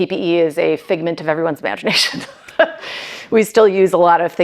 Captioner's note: laughs